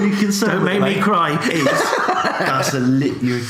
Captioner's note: laughs